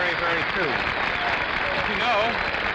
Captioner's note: audience applauding